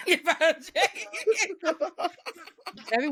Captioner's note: both laughing